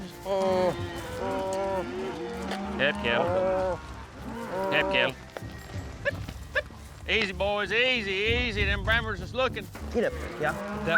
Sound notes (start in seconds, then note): 6.6 calling